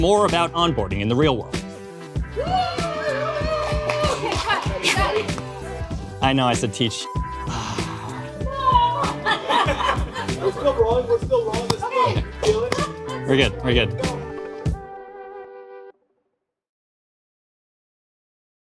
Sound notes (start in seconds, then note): 2.4 cheers and claps; 8.7 all laughing